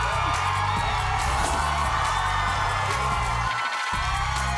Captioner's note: cheering